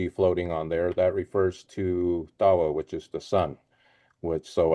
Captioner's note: speaks foreign language